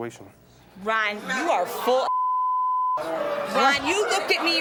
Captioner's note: beep